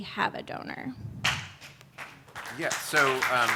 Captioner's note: light audience applause